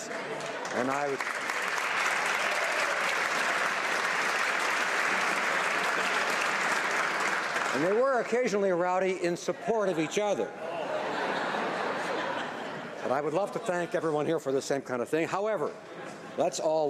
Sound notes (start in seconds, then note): 7.0 applause